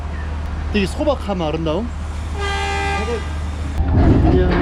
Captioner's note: the train horn is ringing